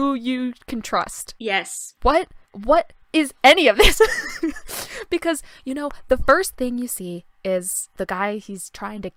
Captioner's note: laughter